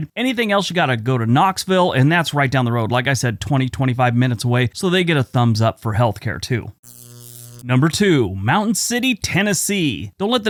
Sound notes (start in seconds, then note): 6.8 static crackling